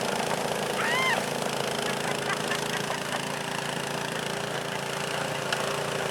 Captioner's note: laughs